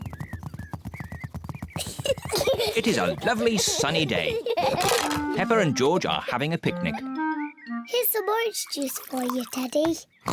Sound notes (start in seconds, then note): 1.8 both giggling